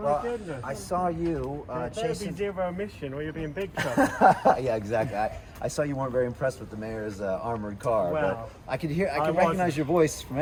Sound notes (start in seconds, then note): 3.8 laughs